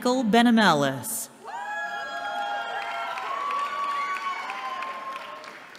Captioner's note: cheering